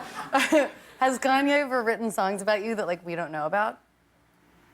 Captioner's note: laughter